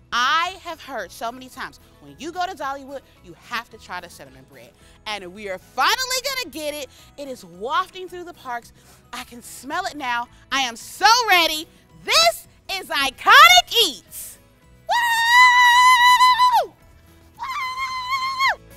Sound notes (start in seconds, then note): 14.8 cheering